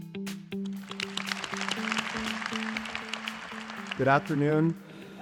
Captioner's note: applause